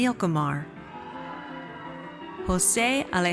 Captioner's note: audience cheers